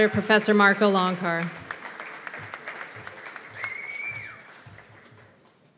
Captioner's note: cheers and applause